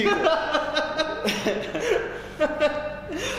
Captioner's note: laughing